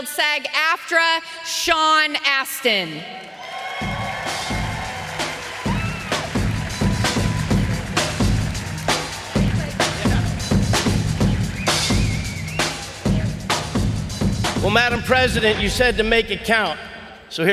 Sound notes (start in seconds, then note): 3.6 audience cheering; 3.6 lively band music